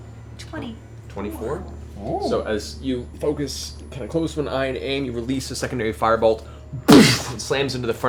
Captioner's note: boosh